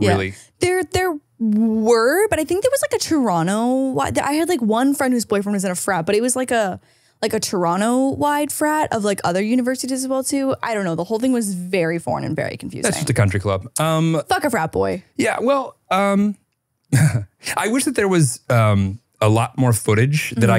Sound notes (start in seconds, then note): 16.9 chuckles